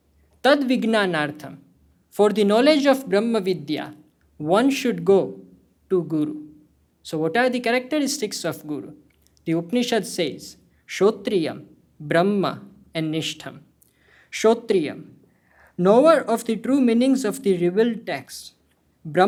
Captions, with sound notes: For the knowledge of Brahmavidhya, one should go to guru. So what are the characteristics of guru? The Upanishad says [SPEAKING HINDI].. [HINDI]---- knower of the true meanings of the real text.